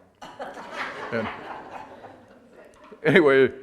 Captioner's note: audience laughter